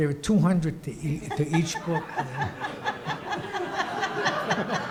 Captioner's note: audience laughs